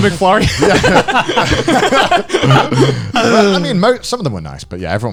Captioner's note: laughing